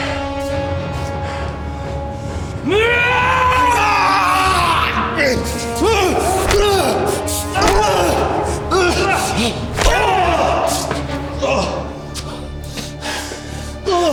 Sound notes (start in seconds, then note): 2.7 Siegmund yelling; 4.1 Brown groaning; 7.6 hits thudding; 9.8 punch crunching